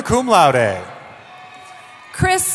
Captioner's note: cheering